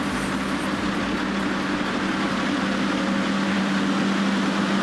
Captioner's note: excavator sounds